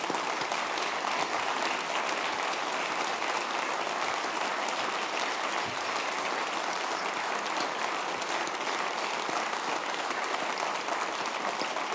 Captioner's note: applause